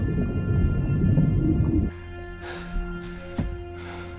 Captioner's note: water warbling